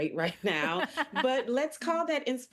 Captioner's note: laughing